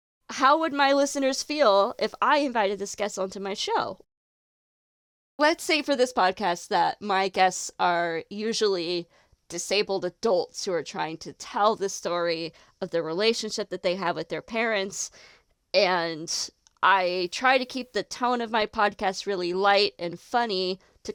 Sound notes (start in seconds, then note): none